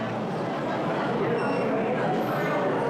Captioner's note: scanner beeps